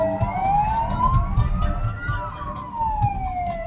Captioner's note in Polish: dźwięk syren policyjnych